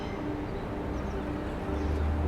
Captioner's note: birds singing; car engine rumbling